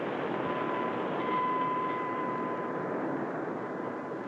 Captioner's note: bell clangs